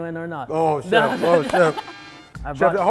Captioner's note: laughing